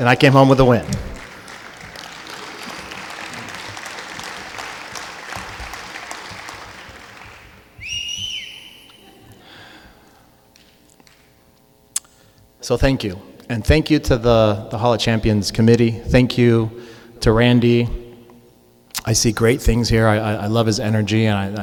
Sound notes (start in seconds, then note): 0.8 clapping; 7.7 whistling